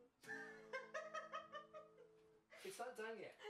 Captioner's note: laughing